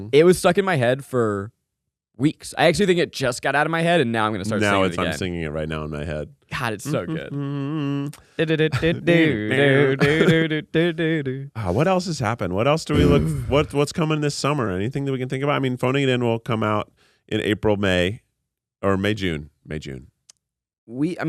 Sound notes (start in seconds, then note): 6.9 humming; 9.2 vocalizing